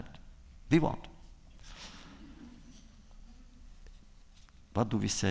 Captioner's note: laughter